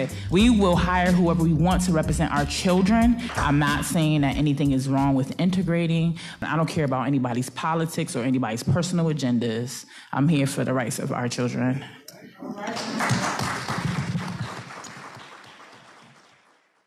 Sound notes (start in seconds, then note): 12.6 cheering